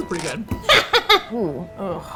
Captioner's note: laughs